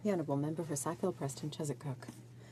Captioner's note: speaking French